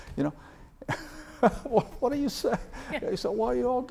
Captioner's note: laughs